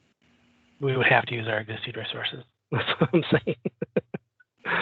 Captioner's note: chuckles